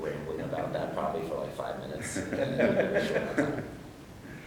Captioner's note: laughs